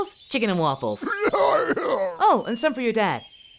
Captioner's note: grunting in pain